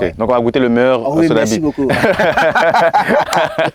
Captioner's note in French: rires